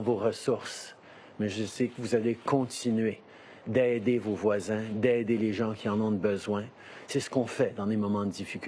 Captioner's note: speaking French